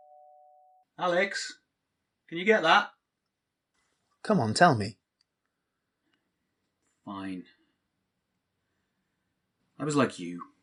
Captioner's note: doorbell